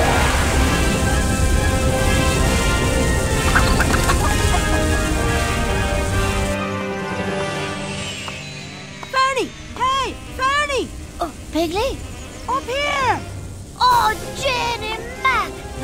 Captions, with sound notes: (ducks quack) Ferny, hey! Ferny! - Oh, Piggley? - Up here! - Oh Janey Mack!